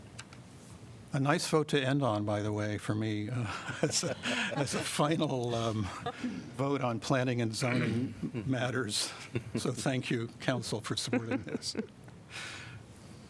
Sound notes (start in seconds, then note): 3.4 laughter